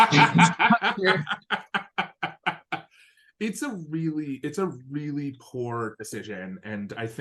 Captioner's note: laugh